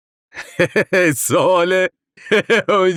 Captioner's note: laughs